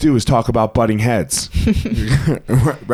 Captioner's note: both laugh